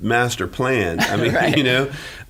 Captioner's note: laughing